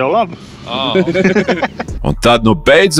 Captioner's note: laughs